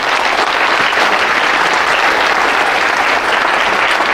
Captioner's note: applause